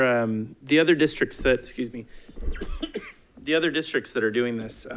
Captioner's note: coughs